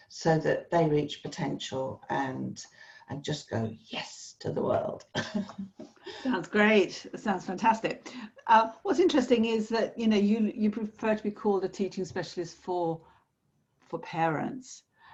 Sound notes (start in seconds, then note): 5.1 laughs